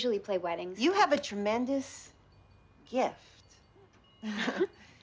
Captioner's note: chuckles